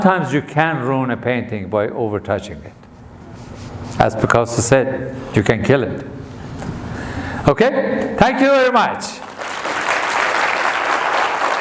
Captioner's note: audience applause